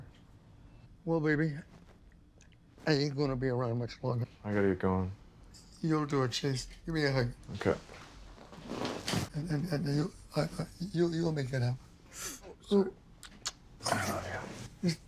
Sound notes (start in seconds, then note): 13.2 wincing